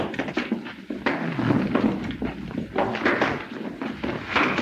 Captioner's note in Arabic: أصوات ارتطام الأجساد